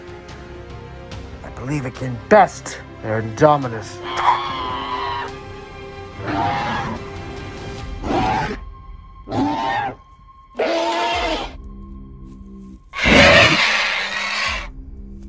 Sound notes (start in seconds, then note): 4.1 terror Bird Sounds